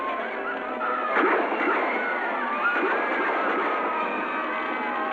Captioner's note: screaming; gunshots